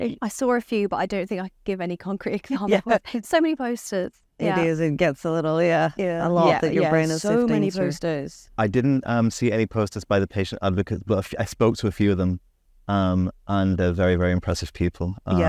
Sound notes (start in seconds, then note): 2.5 laughs